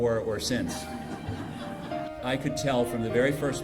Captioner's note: audience laughs